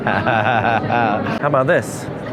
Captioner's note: chuckles